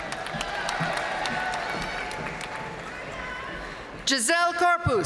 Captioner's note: audience cheering and applauding